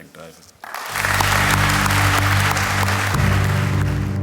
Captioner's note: applause